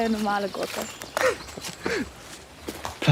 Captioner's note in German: Lachen